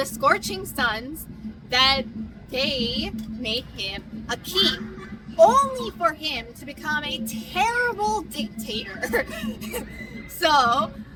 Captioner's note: laughs